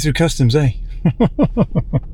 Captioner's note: laughing